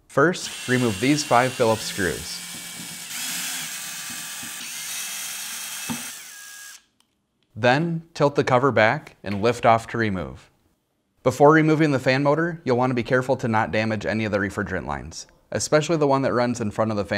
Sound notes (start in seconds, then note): 2.4 drilling